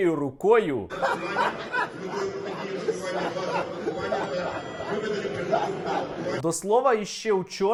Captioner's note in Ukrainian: cміється